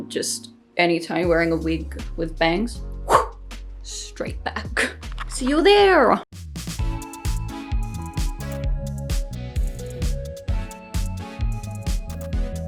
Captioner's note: woosh!